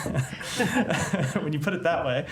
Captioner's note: laughter